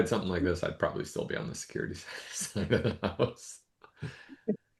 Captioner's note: laughs